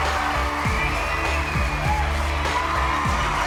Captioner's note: cheering